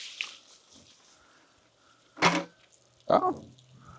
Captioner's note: water splashing